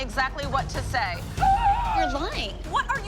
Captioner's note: gasps